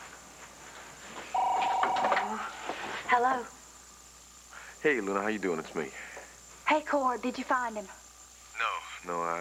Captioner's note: telephone rings